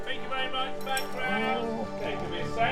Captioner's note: dog whines